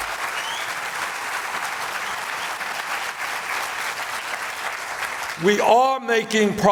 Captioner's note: applause